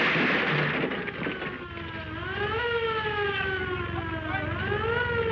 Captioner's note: siren